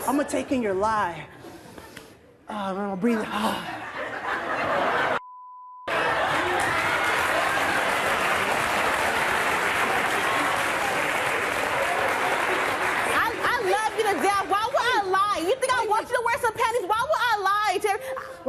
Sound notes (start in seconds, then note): 3.7 audience laughing; 6.9 audience applauding